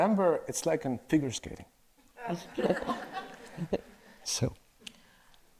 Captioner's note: audience laughs